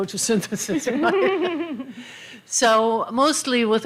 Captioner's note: laughter